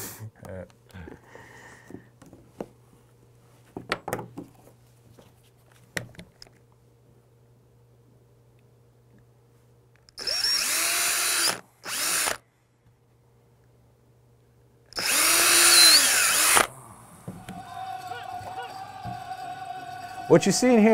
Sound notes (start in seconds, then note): 7.9 sound of drill; 17.6 music/drumming/singing